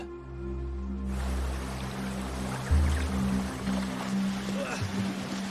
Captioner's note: water splashes